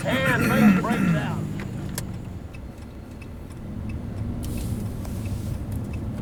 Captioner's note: throat clears, turn signal clicks